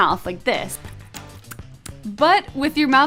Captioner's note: clicks tongue